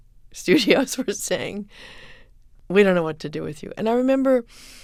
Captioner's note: soundbite of laughter